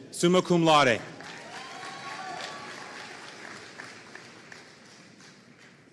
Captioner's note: audience cheering and applauding